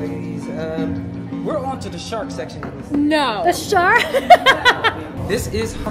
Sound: cackle laugh

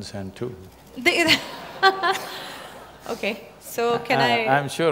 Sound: laughter

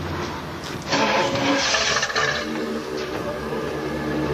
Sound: engine rumbles

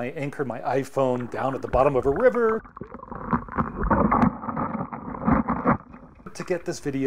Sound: sound of of rocks moving under water

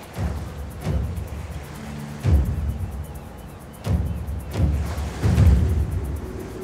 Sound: the sound of waves

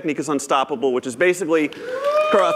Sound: cheers

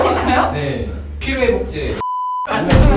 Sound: holds in laughter

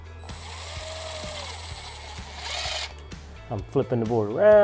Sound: drill whirring

